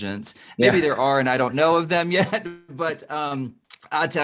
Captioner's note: chuckles